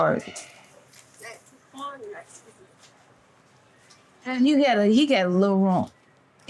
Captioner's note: student speaks softly